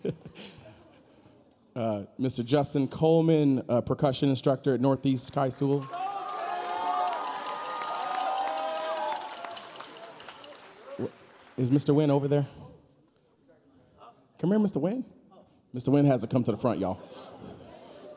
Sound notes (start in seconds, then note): 0.0 chuckling; 7.4 audience applauding; 7.4 audience cheering